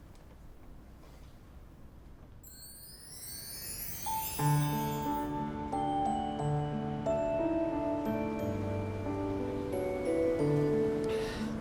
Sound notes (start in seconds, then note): 2.5 bells chiming